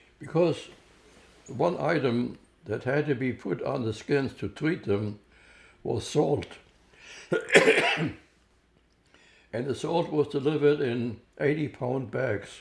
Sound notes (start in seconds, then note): 7.2 coughing